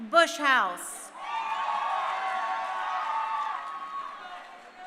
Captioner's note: crowd cheering